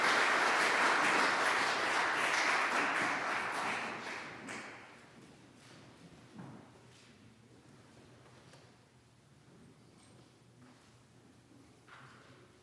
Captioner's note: applause